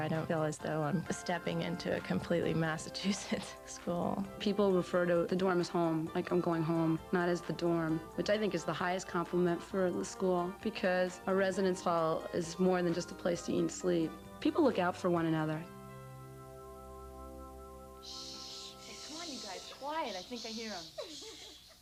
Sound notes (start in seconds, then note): 18.1 students whispering